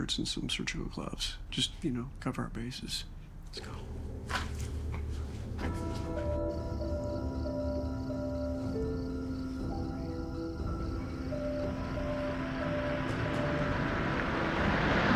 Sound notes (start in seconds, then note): 5.5 mellow music; 11.0 car engine rumbling